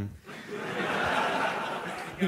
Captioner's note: laughter